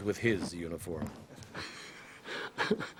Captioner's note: laughs